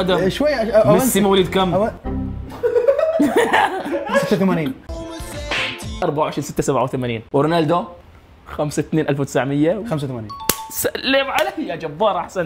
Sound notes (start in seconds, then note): 2.5 laughs